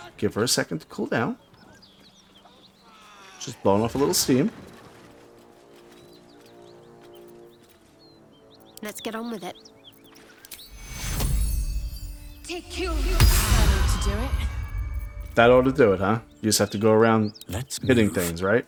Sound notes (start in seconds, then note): 8.1 silence